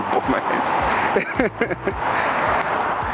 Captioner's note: laughs